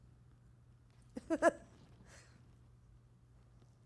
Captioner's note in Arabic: يضحك